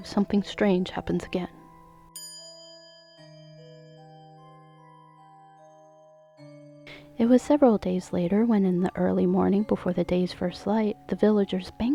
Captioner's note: small chime